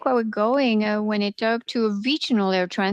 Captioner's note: speaking French